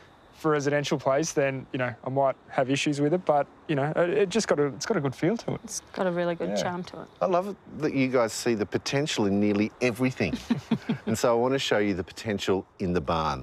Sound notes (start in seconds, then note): 10.3 both laugh